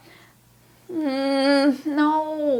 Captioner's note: groaning anxiously